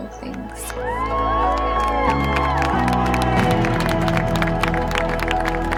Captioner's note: crowd cheers and applauds